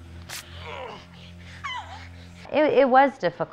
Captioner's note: grunting; screaming